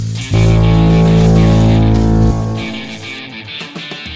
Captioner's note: machine blares